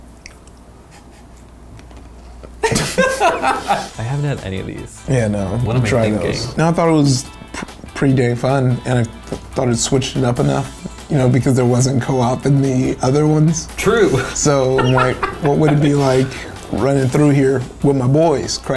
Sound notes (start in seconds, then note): 2.6 laughs; 13.7 laughs